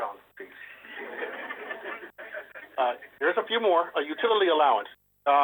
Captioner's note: laughter